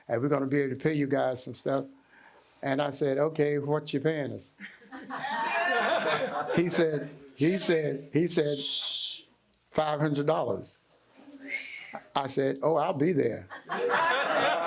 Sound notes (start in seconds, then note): 4.7 audience laughing